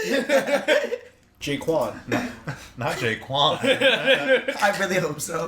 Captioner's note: laughter; laughter